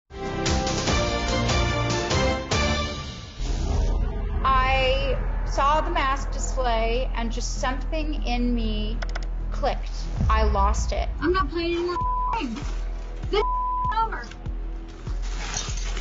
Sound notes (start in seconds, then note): 11.7 beep; 14.9 items crushing